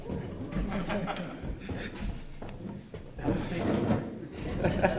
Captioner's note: laughter